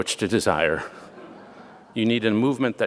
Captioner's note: audience laughing